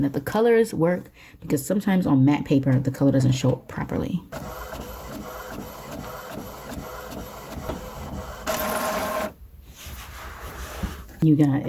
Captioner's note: printer printing